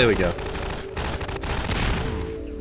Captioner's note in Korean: 총소리